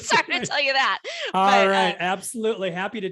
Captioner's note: laughter